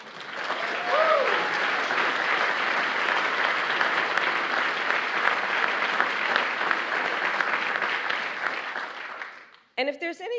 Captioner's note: applause